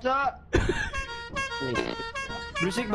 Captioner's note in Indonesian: continues to honk